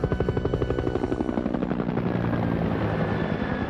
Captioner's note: rotors whirring